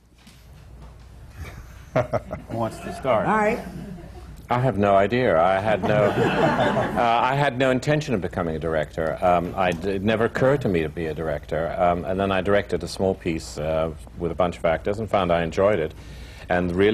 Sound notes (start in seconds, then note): 1.4 laughter; 5.7 laughter